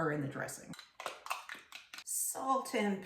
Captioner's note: spoon stirring